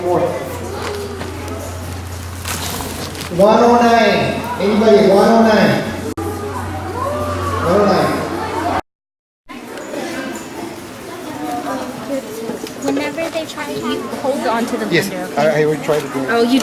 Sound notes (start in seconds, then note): 2.8 students chattering excitedly; 9.5 students talking